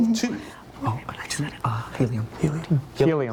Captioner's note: students whispering